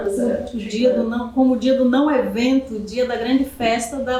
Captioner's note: speaking portuguese